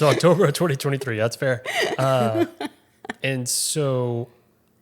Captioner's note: laughing